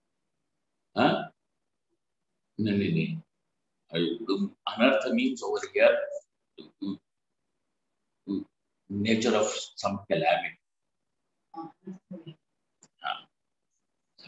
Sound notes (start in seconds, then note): 1.9 sanskrit